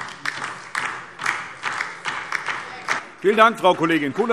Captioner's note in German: Beifall DIE LINKE